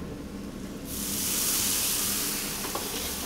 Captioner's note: wine sizzles